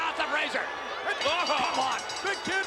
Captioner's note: bell ringing